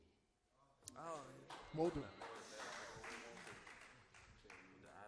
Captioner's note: applause